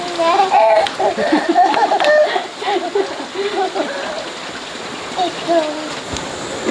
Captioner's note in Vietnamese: Tiếng cười